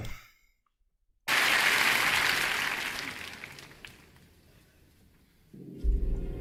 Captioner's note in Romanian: Aplauze